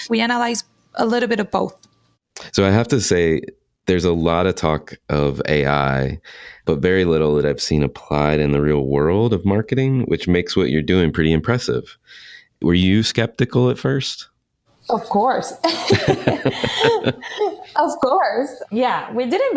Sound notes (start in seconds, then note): 15.6 laughing